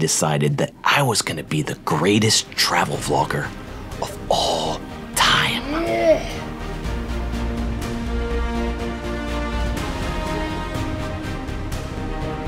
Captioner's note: grunts